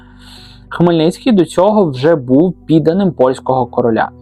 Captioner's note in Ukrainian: сопіння